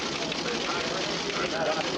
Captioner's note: printer whirring